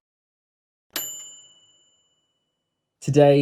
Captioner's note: bright bell dinging